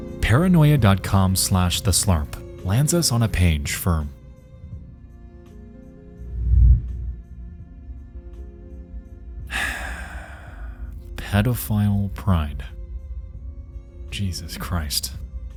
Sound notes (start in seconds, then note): 9.5 sighs